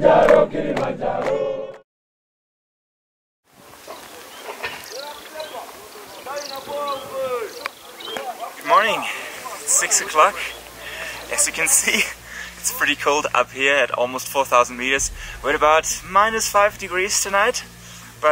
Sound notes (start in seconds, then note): 3.8 birds chirp; 5.5 man shouts in foreign language